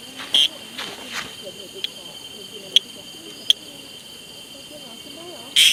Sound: insects

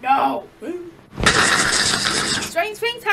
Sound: chomping

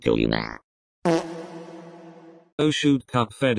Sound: poof

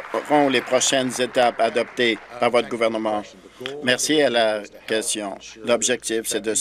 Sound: applause

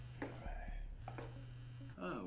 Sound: cell phone buzzing

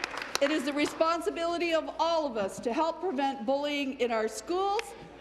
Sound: applause

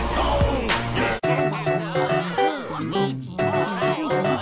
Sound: phone Ringing

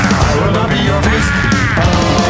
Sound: roar

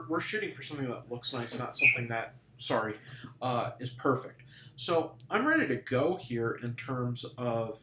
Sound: sqeaky noise

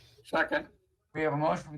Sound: audio distortion

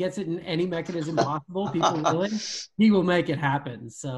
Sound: laughing

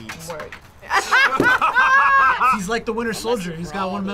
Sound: both laugh

